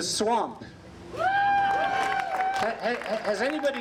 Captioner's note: applause